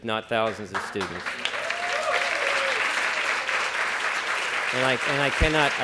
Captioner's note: applause